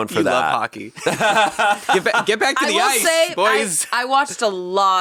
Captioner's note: laughing